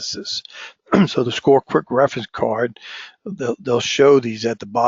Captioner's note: cough